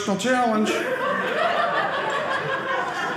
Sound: audience laughing

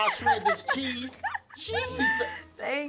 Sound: laughing

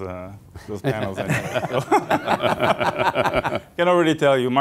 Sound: laughter

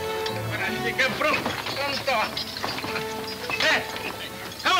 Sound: speaking Spanish

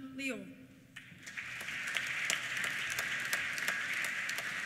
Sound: applause

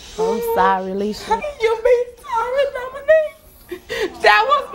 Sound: crying

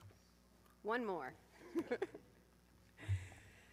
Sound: laughs

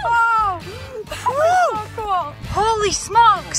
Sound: whooping

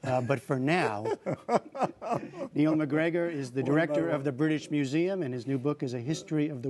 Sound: laughter

